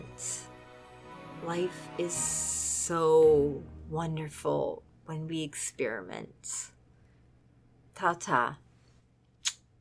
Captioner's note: kiss